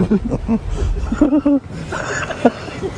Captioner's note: laughter